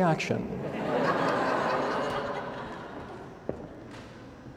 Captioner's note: laughter